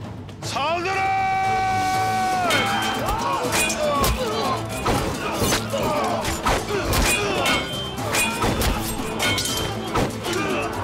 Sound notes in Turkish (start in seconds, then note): 7.8 Kılıç sesleri